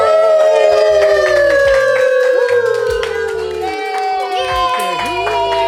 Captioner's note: cheers